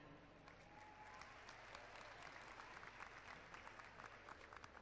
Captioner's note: clapping